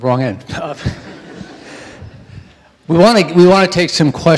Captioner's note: audience laughing